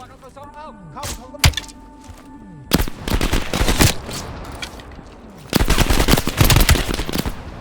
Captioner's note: speaking in foreign language; gun fires; speaking in foreign language